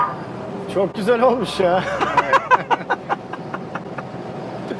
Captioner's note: laughings